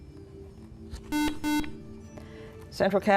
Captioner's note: buzzer